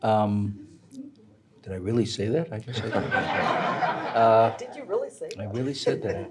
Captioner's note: audience laughing